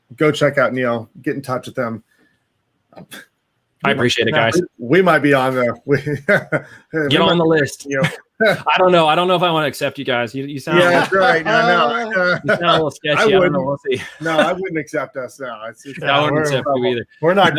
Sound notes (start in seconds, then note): 5.8 chuckles